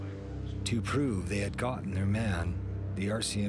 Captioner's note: voiceover